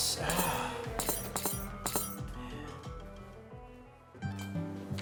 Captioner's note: spurs Clacking